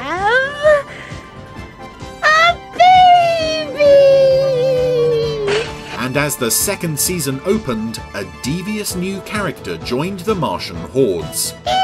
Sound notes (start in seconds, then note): 5.3 dishes clatter